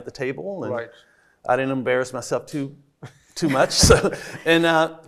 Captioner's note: laughs